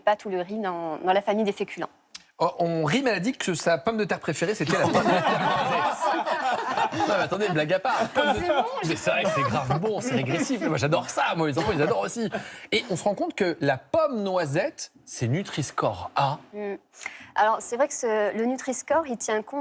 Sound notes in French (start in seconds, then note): 4.6 rires